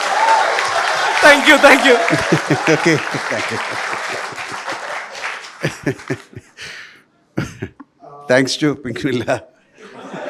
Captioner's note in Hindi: हँसी